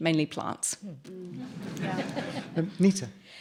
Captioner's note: audience chuckles